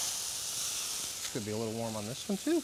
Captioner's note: pan sizzling